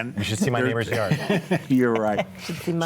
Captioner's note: group laughs